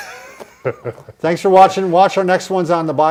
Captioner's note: laughs